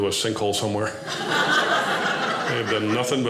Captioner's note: audience laughing